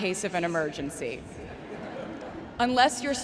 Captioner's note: crowd members laughing